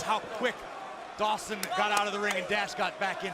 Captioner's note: crowd chatter